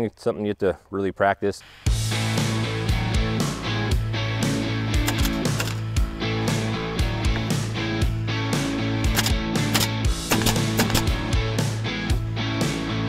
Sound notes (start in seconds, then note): 2.2 loud rock music; 5.0 nail gun popping; 9.6 rock music continuing